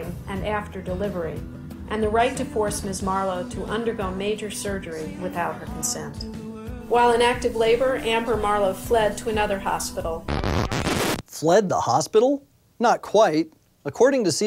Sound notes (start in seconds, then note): 10.2 record scratch